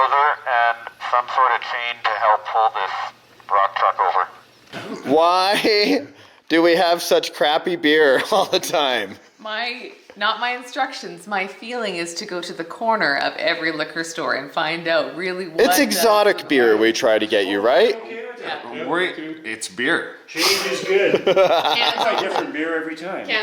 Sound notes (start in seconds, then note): 20.3 laughing